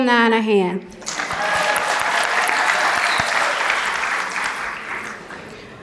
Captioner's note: cheering and Applause